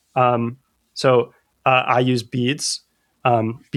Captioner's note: uh